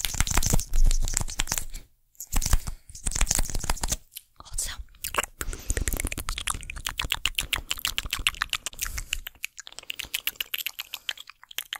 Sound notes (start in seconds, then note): 4.5 mouth Sounds